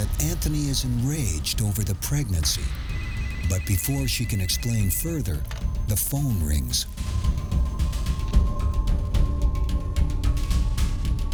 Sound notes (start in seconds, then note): 2.4 phone ringing; 7.1 tense music